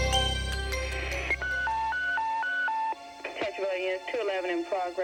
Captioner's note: beeping